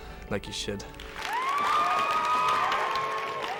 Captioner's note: crowd cheers